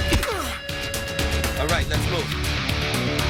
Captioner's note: grunts